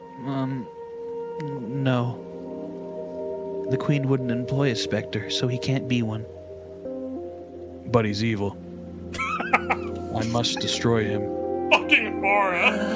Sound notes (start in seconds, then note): 9.1 laughs